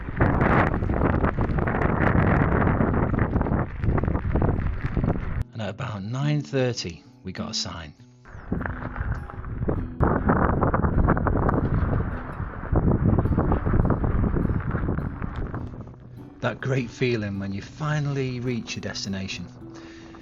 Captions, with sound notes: at about 9.30, we got a sign. (very strong winds) That great feeling, when you finally reach your destination.